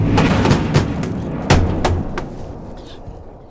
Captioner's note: banging